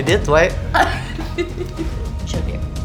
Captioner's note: laughs